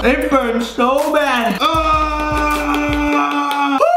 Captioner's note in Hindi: कराहना